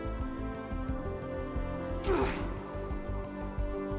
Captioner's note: gasp of exertion